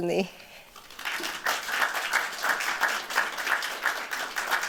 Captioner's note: applause